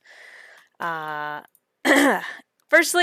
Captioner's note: clears throat